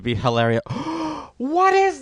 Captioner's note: another gasp of destiny